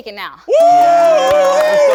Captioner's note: cheers; audience applauds